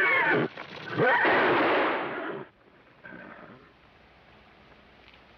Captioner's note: gunshot bangs